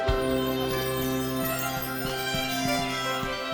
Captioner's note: running footsteps